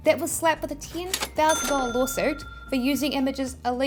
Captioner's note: register chiming